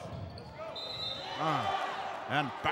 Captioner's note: whistle blows; yelling